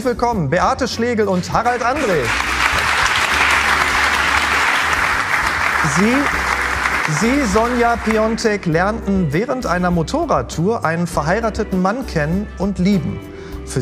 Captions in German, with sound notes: Herzlich willkommen, Beate Schlegel und Harald Andrae. (Applaus) Sie, Sonja Piontek, lernten während einer Motorradtour einen verheirateten Mann kennen und lieben.